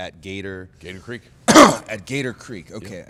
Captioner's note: coughs